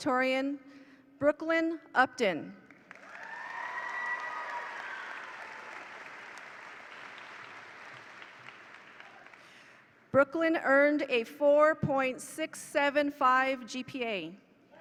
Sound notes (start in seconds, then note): 2.8 attendees applaud; 2.9 attendees cheer